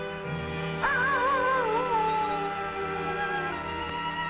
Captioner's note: animal howling